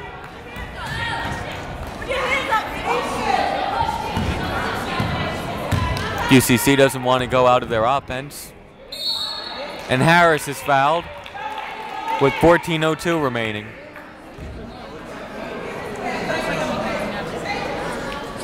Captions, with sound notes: Duffin. (yelling) QCC doesn't wanna go out of their offense. And Harris is fouled, with 14:02 remaining. (chattering)